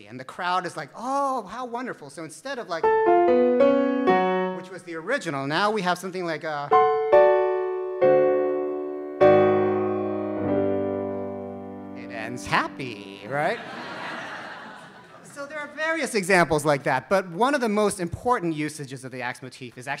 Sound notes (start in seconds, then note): 3.0 ominous music; 6.7 jubilant music; 13.2 audience laughs